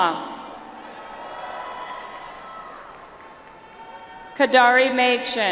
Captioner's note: audience applauds